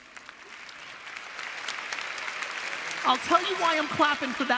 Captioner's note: audience applause